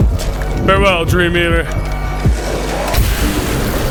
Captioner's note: gun fires